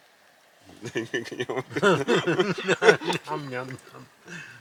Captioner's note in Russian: смех